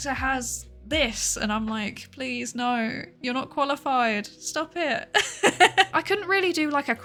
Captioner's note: laughs